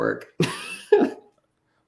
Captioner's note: laughter